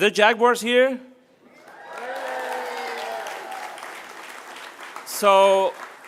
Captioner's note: applause